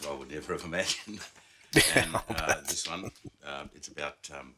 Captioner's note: chuckling